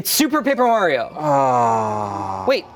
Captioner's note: groans